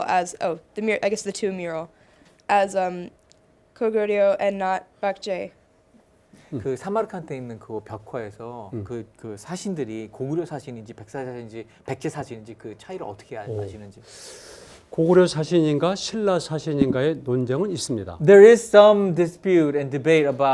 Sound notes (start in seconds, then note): 6.8 speaking in Korean; 15.1 speaking in Korean